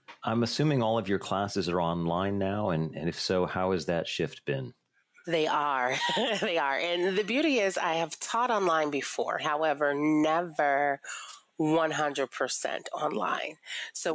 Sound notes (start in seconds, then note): 5.8 laughs